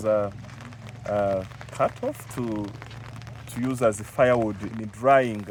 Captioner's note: none